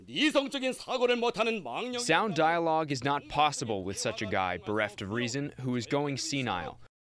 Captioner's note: through translator